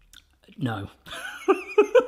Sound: laughs

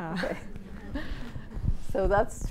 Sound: laughter

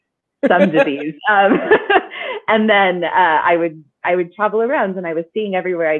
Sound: laughing

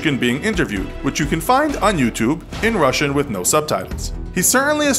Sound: in Russian with no subtitles

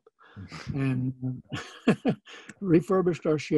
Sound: laughing

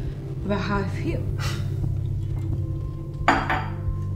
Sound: Dale scoffs

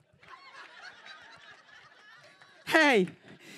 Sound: audience laughter

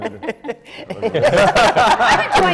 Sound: laughter

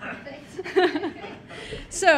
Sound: laughs

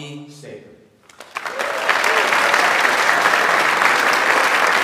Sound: audience applauds

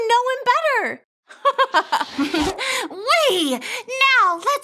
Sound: giggles

